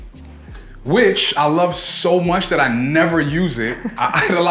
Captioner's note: laughs